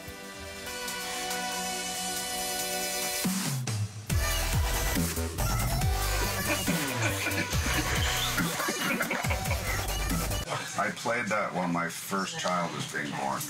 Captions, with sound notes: (DUBSTEP MUSIC PLAYING) (LAUGHTER) I played that when my first child was being born.